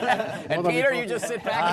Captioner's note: laughter